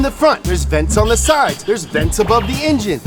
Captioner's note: bell chimes; tones squeaks